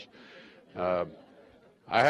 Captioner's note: laughter